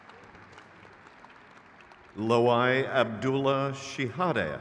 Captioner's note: crowd claps